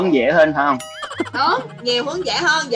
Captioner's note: laughing